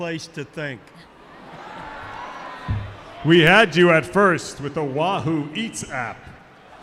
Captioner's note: laughter